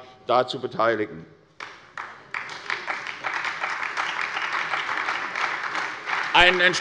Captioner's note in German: Beifall bei der SPD